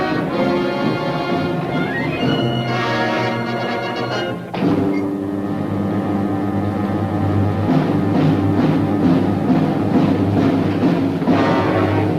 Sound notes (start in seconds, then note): 4.6 door clicks; 7.7 suspenseful percussive music